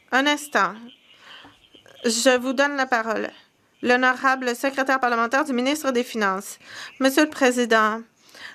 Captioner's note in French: voix de l'interprète